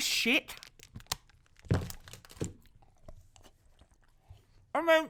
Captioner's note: chews loudly